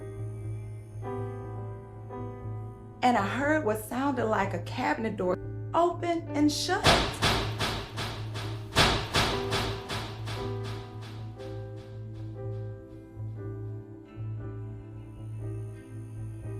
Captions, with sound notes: (suspenseful music) and I heard what sounded like a cabinet door open and shut. (cabinet bangs) (suspenseful music)